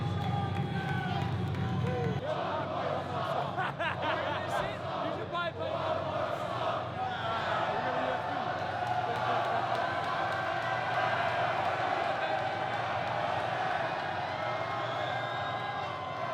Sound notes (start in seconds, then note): 3.5 laughs; 5.9 crowd; 9.1 crowd cheers